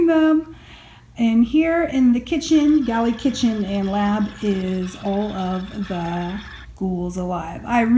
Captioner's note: steampunk clinking